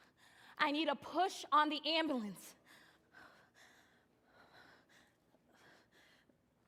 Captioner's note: panting